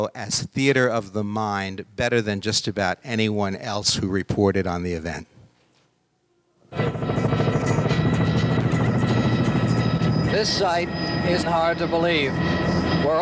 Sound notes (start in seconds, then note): 6.7 helicopter propeller